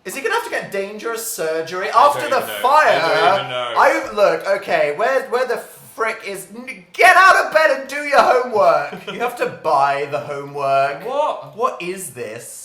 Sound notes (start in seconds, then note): 8.2 laughs